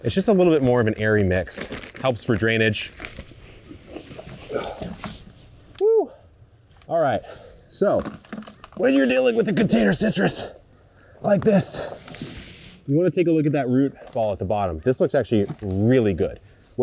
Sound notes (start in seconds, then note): 4.5 grunts